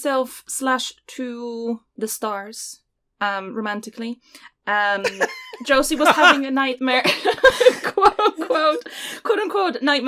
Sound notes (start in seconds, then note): 4.9 laugher interlude; 7.9 laughs